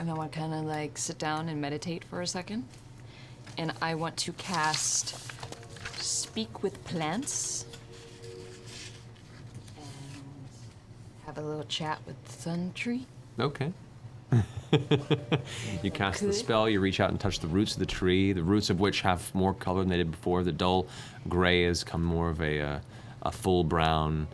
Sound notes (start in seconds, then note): 14.3 laughs